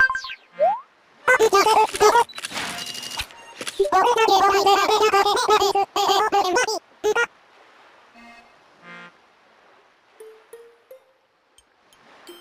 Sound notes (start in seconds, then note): 2.2 cellphone taking photos